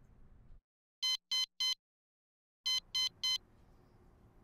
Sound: alarm blaring

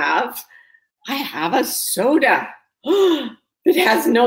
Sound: gasps

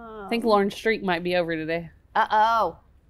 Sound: moaning

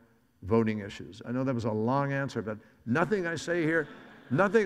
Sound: audience laughs

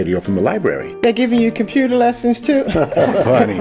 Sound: laughing

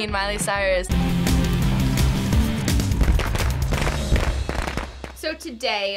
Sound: industrial intro; fireworks

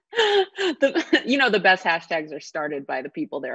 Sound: laughs

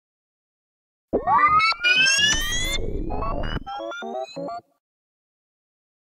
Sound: sound of sci fi rewind glitch

